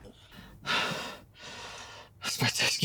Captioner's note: Chris panting